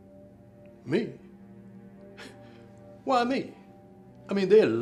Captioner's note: chuckles